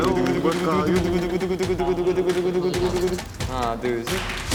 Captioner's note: heart beating fast